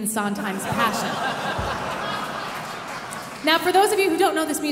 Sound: audience laughing

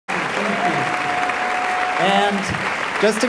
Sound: applause

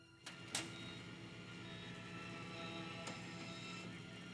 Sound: monitors beeping

